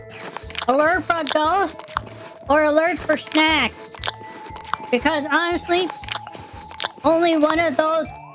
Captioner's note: mouth full